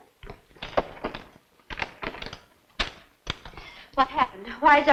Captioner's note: lock clicking